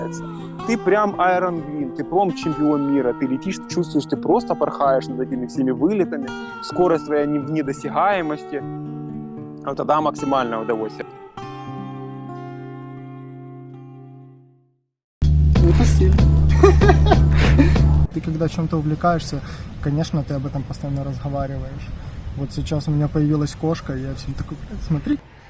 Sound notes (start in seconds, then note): 16.5 chuckles